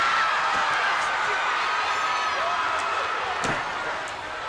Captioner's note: spectators cheering